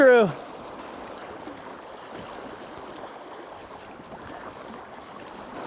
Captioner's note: water splashing